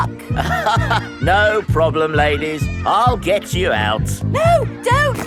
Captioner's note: chuckles